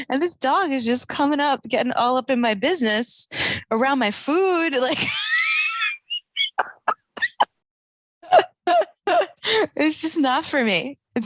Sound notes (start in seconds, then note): 5.0 laughing